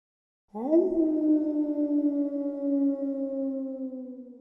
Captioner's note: wolf howling